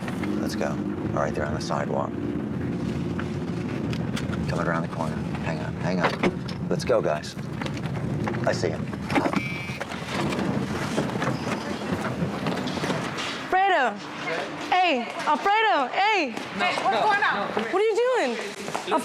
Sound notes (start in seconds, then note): 9.3 phone buzzes